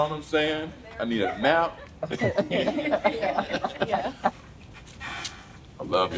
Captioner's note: laughs